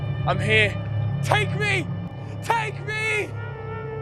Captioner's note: vo, shouting